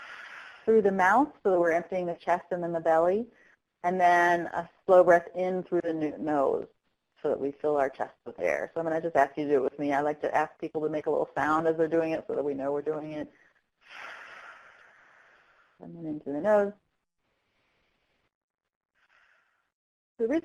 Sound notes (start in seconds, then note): 13.8 exhale; 17.2 breath in